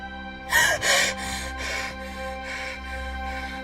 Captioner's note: gasps